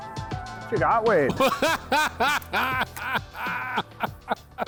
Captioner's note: laughing